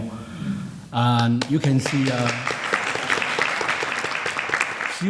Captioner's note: applauding